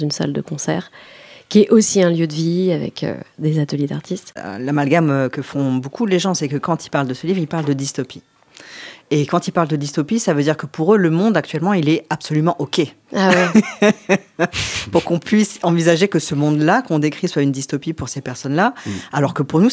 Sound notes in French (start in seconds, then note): 13.3 rire